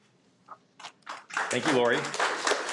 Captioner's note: audience applauding